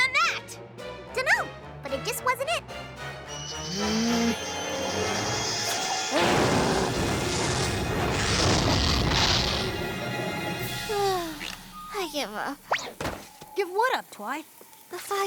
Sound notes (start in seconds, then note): 3.7 growls; 7.6 crackling, whooshing